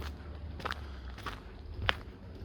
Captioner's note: footsteps on gravel